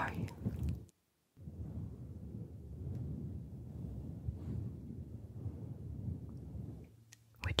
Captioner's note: mic brushing